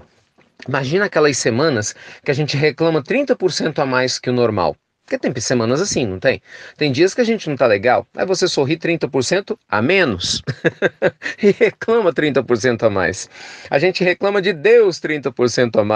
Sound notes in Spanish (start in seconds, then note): 10.3 risas